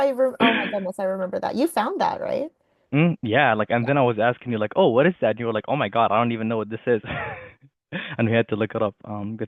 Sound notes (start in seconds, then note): 6.7 laughing